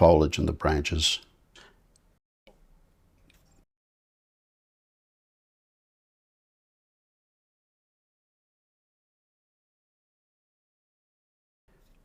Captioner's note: silence